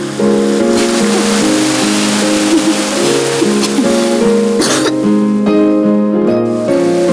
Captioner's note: laughs; coughing